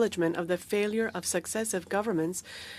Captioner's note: speaking French